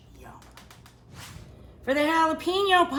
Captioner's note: swooshing